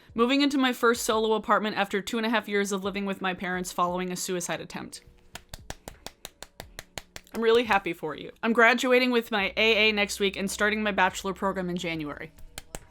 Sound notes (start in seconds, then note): 5.3 claps; 12.5 claps